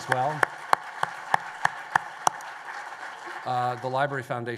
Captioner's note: applause